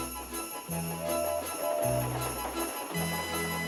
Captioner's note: horns hooting